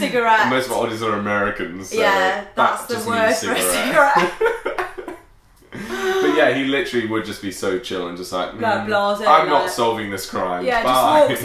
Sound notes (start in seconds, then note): 4.0 laughing